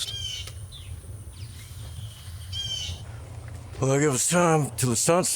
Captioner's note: birds squawking